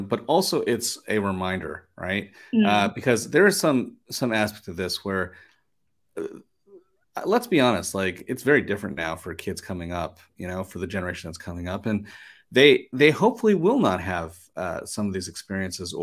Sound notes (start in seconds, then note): none